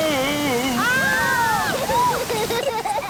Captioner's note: children laughing